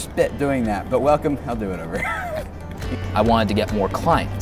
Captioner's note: laughs